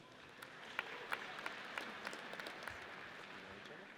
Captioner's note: audience applauds